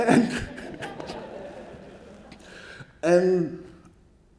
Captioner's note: laughs; audience laughing